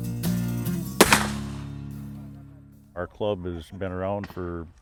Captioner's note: loud crack!